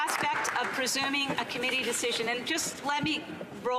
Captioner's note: applause